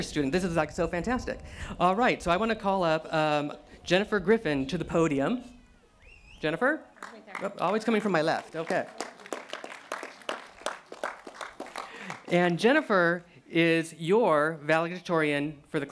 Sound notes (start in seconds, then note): 8.8 applause